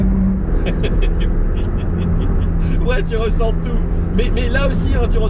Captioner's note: laughter